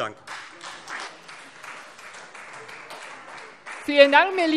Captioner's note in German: Beifall Freie Demokraten